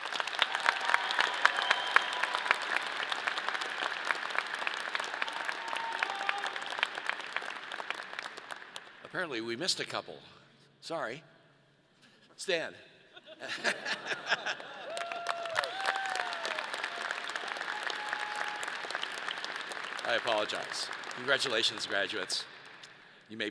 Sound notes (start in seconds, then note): 13.2 laughs; 13.3 audience laughs